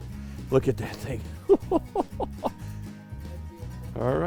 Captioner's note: laughs